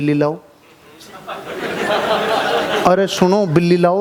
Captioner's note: laughing